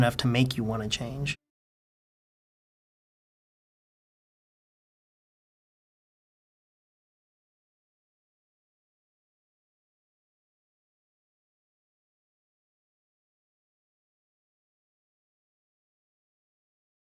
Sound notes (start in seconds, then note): 1.5 silence